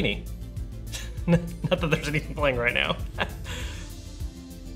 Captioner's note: laughing